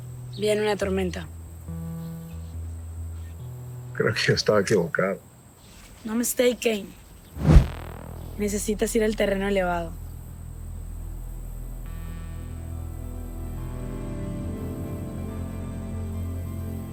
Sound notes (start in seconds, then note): 0.2 woman speaking in Spanish; 3.8 James speaking in Spanish; 5.9 woman speaking in Spanish; 7.3 air whooshing; 12.5 pensive music